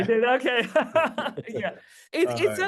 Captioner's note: laughter